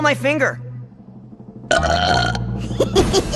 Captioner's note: burp